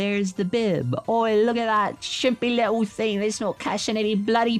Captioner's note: upsetting British accent